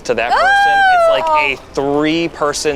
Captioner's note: squeals